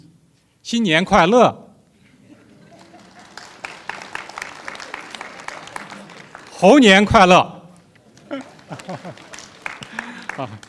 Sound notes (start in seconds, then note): 1.2 foreign language; 4.6 applause; 7.0 foreign language